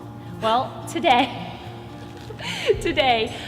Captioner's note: laughs